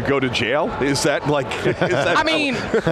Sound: laughing

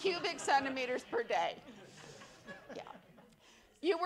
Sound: attendees laugh

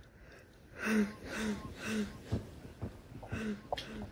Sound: distorted breathing

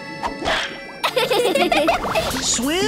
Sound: laughing

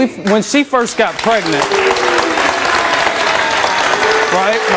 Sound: audience applause

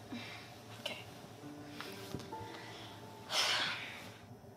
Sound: sighs

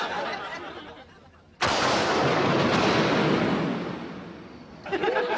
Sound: thunder sounds; end of a laugh track

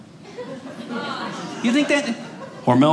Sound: audience laughing

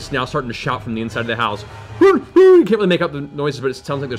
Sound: muffled shouting

